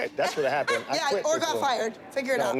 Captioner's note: laughs